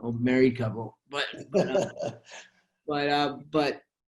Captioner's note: chuckling